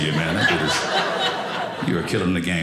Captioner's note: audience laughing